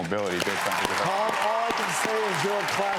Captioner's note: audience claps